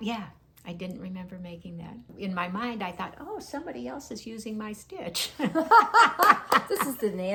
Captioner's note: laughing